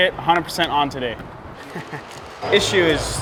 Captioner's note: laughs sardonically